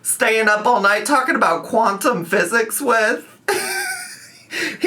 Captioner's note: laughing